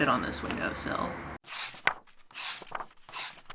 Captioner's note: pages turning